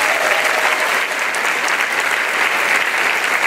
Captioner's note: applause